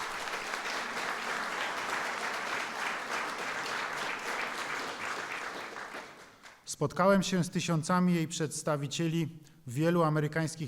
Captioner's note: applause